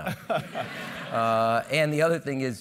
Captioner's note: laugh